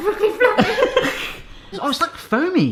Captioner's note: laughs